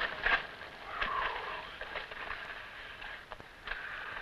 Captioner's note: Esparza exhales